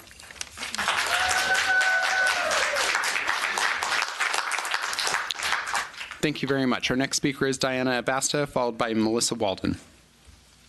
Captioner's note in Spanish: aplausos